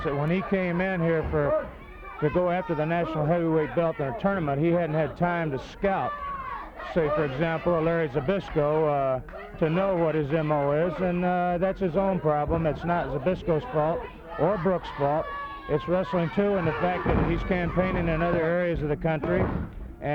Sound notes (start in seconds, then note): 4.5 crowd clamoring; 16.7 body thudding